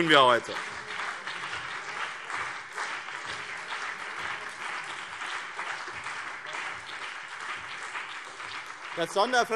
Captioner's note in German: Beifall BÜNDNIS 90/DIE GRÜNEN und CDU